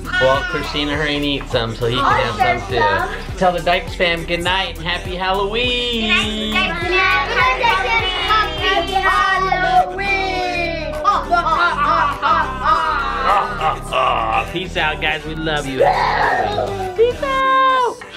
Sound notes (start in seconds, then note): 11.0 cackling